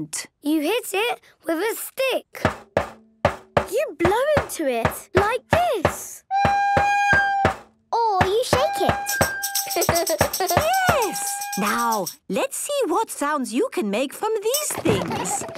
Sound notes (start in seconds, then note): 6.2 recorder note plays; 9.0 rattling